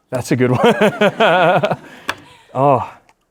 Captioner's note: laughs